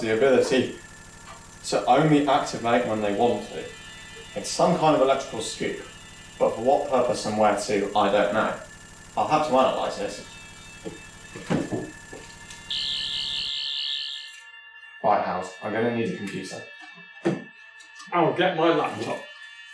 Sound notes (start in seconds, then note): 12.4 buzzing; 12.4 signal buzzing stops